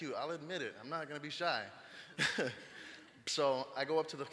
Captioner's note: laughing